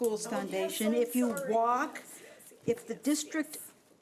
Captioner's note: overlapping chattering